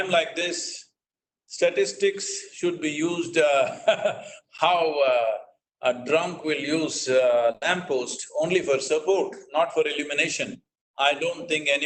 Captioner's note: laughs